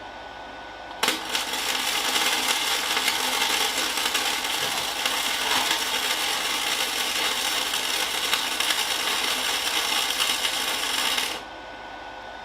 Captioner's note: working sound